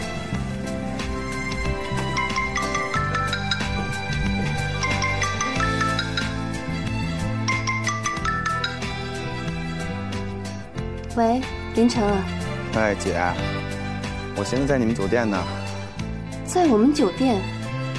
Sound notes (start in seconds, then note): 4.7 phone rings